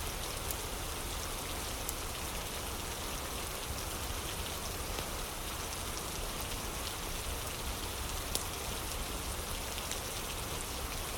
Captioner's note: fire crackling